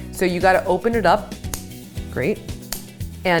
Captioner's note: scissors snip